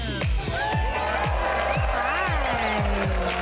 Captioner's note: crowd cheers